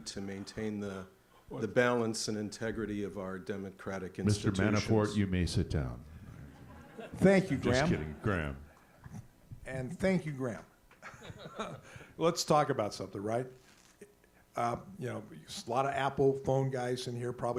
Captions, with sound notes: to maintain the balance and integrity of our democratic institutions? - Mr. Ma-ni-fort, you may sit down. (audience laughs) Just kidding, Gram. - And thank you Gram. (laughs) Let's talk about something, right? There's a lot of Apple phone guys in here,